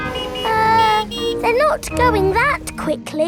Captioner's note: horns honking